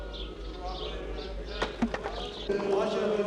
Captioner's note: clattering